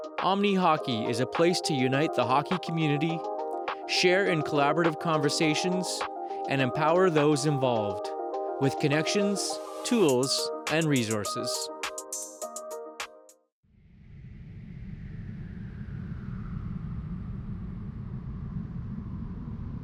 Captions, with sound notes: Omni Hockey is a place to unite the hockey community, share in collaborative conversations, and empower those involved with connections, tools, and resources. (wind howling)